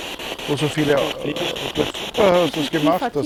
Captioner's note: grumble